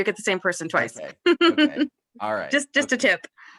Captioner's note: laughter